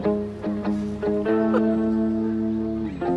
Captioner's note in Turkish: Gülme sesi